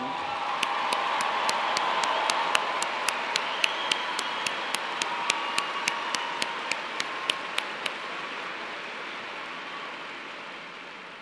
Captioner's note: cheers and applause